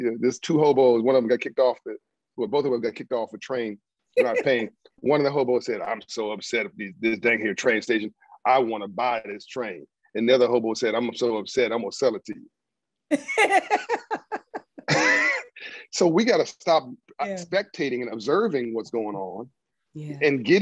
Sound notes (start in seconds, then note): 13.1 laughs